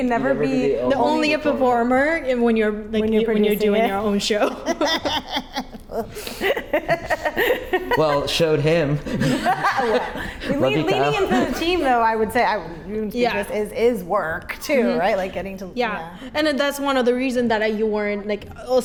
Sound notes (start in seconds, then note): 4.4 laugh